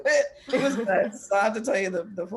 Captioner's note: laughter, cross-talk